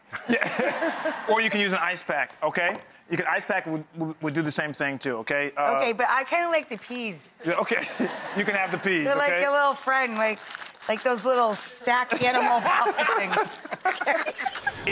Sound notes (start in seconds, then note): 0.2 all laugh; 7.6 audience laughs; 10.1 bag rustles; 11.9 hosts and audience laugh